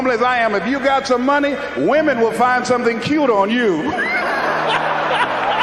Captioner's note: laughs